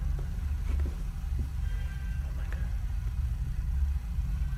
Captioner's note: crying